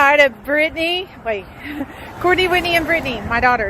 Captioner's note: chuckles